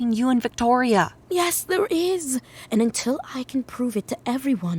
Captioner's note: whispered